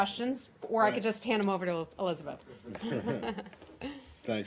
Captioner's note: laughter